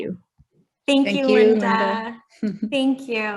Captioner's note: chuckles